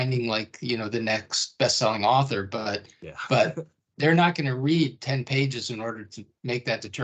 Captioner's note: chuckling